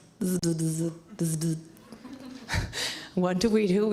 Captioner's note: laughs